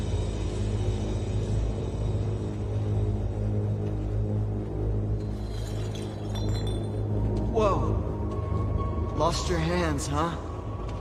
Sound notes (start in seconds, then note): 5.2 glass clinks